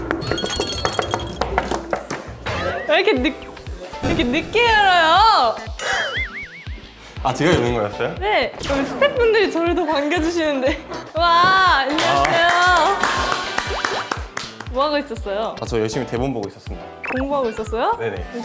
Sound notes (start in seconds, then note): 2.4 door opened in haste